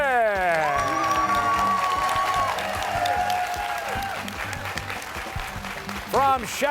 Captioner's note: cheers and applause